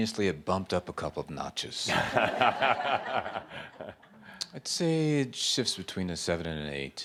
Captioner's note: laughter